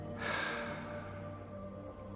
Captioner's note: sighs